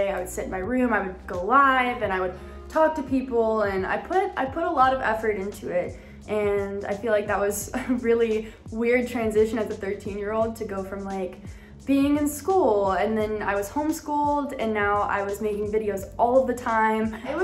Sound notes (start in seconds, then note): 7.7 chuckles